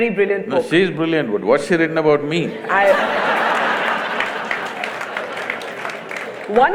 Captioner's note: laughter/Applause